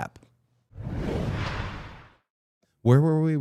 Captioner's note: graphic whooshing